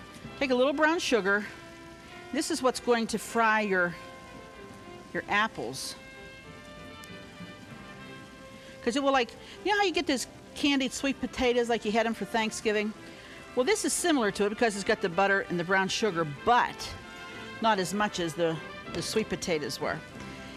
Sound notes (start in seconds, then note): 8.5 sizzling